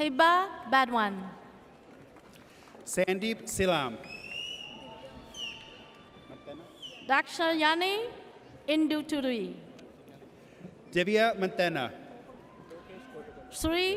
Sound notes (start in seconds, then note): 4.7 audience cheers